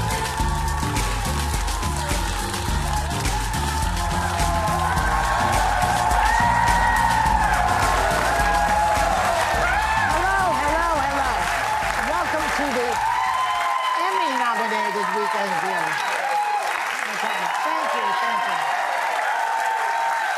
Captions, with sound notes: (audience cheering) Hello, hello, hello. Welcome to the Emmy nominated weekend of the year. Okay, thank you, thank you.